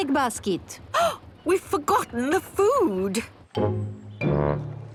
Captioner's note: gasps